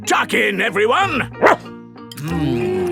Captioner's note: barks